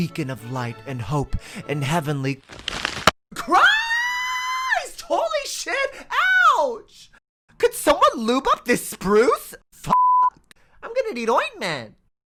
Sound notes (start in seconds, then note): 2.4 crunching branch sound